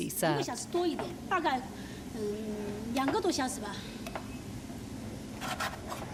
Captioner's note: speaking in foreign language